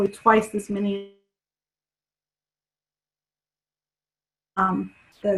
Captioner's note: audio cuts out